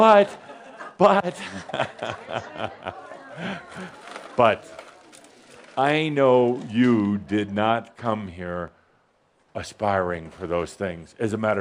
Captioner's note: Adamus chuckles